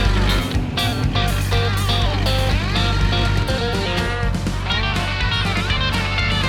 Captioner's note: engine